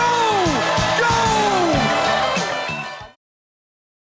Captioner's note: cheering, applause continues